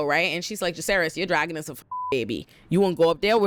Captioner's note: beep